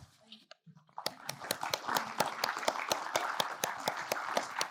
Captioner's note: audience applauding